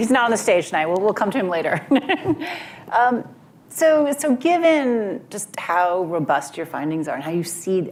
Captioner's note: laughs